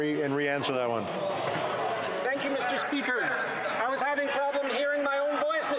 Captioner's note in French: voix de l'interprète